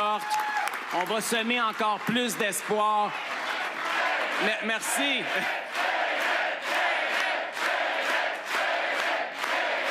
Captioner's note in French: applaudissements